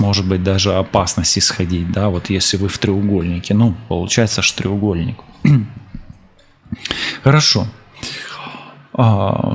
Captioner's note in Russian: откашливается